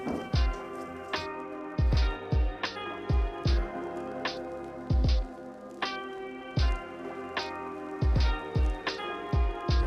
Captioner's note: sounding gavel